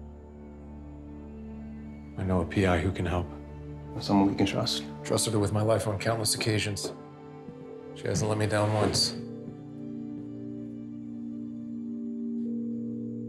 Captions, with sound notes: (suspenseful music) I know a PI who can help. - Someone we can trust? - Trusted her with my life on countless occasions. She hasn't let me down once. (phone ringing)